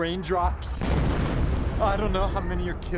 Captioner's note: bomb explodes